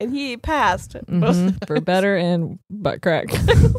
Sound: both laughing

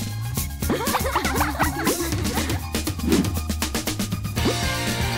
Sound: laughter

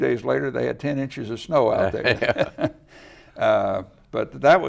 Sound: laughs

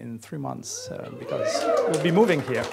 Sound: cheers

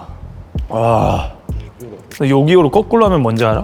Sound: huaaaa

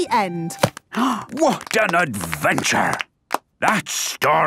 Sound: applause

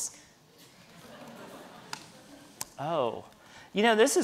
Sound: audience laughing

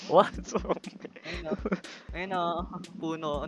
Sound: chuckling

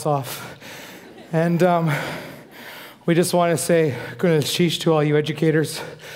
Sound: foreign speaking

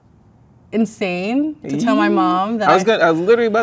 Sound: squeal

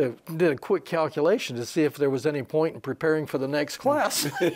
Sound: they laugh

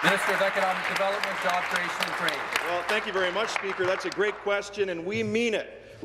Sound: applause

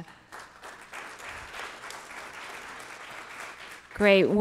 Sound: audience applauding

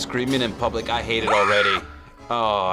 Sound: woman screams

